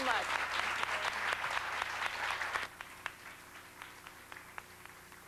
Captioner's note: applause